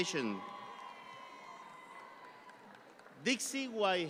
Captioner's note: audience cheering